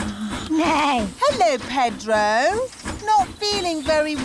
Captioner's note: neighs